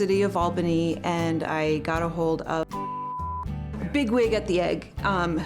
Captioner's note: beep